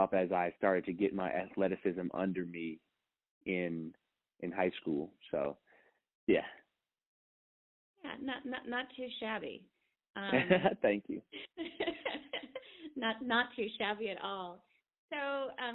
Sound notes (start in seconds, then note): 10.3 laughing